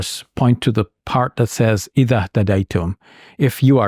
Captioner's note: speaking in Arabic